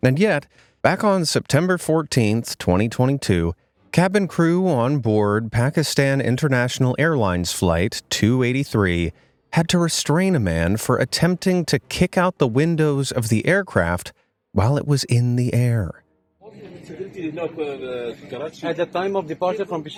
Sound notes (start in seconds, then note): 17.1 man speaking in a foreign language